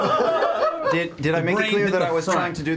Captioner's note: all laugh